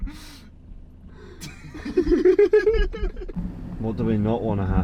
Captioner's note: group laughing